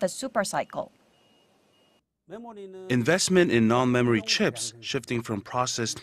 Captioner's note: Korean